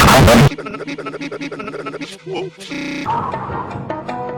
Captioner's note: loud distorted noise; Tigger stutters and reverses